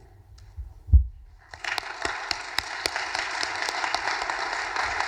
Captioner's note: audience applauding